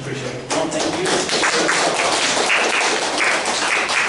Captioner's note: applause